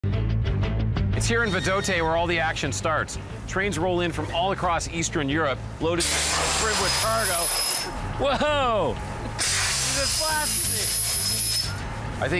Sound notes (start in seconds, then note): 6.0 steam blasting; 9.4 steam blasting